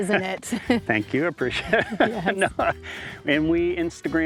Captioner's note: laughs